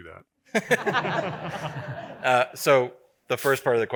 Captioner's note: audience laughing